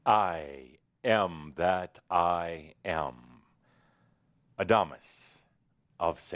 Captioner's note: none